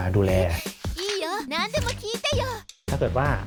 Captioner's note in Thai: เสียงพากย์ภาษาญี่ปุ่น